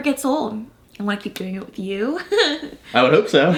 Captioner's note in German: lacht